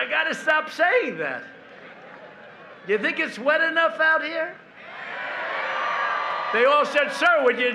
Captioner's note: laughter